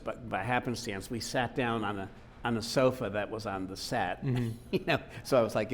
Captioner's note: laughing